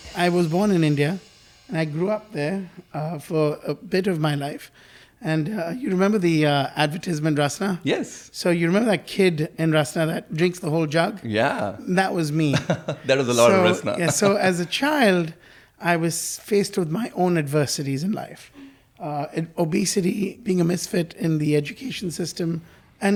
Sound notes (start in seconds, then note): 12.5 laughing